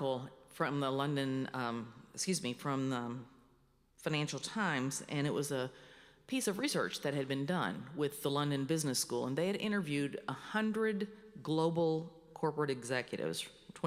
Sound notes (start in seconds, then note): none